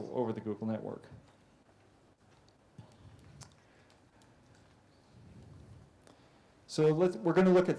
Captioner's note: pause